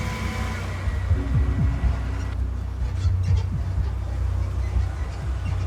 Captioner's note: vehicle rumbling and squeaking